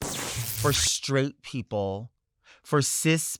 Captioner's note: lightning strikes